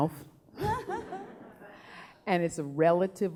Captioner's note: laughing